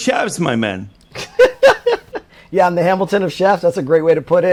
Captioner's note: laughs